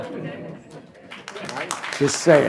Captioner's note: applause